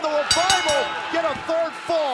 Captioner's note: bell ringing